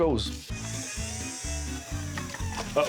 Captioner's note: whirring sound starts, stops abruptly